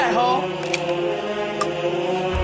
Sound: click

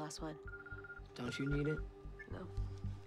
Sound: cell phone ringing

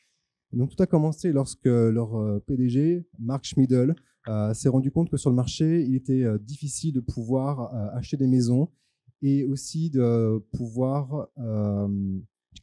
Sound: translating into french

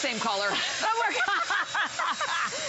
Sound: laughter

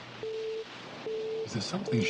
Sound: mysterious beeping

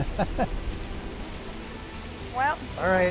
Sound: laughs; waves roar, rain beats down

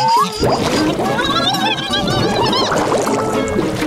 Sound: gargling

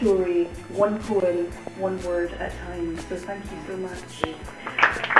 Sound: loud applause

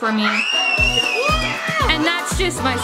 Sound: screaming

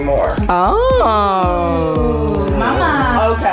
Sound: all groaning

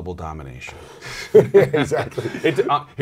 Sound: laughs

